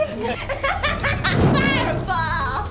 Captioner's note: maniacal laughter